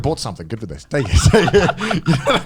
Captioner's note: laughs